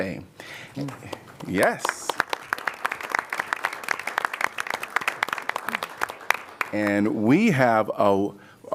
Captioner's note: applause